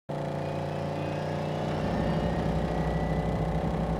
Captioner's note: engine revving